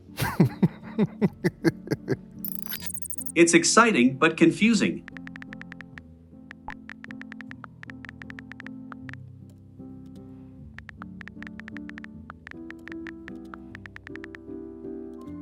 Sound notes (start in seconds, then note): 0.1 laughing; 6.5 cheerful piano music; 6.5 typing sounds